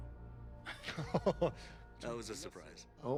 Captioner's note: both chuckle